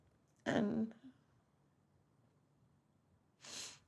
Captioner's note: sniffling